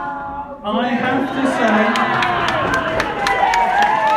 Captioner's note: cheering